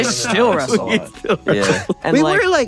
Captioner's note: laughs